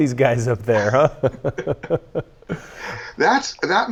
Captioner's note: chuckles